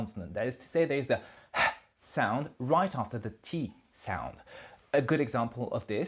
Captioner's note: exhale of air